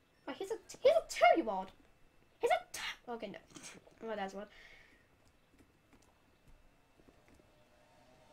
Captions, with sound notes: Wait he's a TWO YEAR OLD! HE'S A TWO *loses breath* ok nope *laugh* whatever